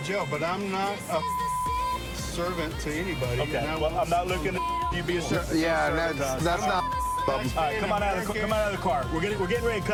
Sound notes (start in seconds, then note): 6.6 chatter